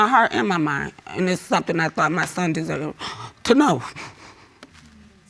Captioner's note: breathes shakily